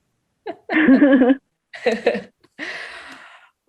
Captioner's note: laughs